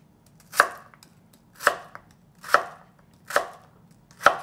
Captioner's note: knife chopping